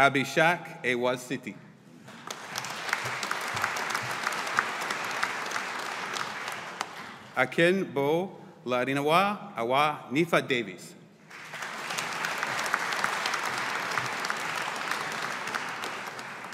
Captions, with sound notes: Abhishek Awasthi. (AUDIENCE APPLAUDING) Akinbolarinwa Awoyinfa-Davies. (AUDIENCE APPLAUDING)